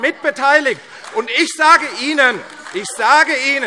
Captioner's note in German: Beifall AfD - Widerspruch DIE LINKE